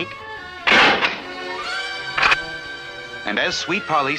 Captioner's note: door Closes & then locks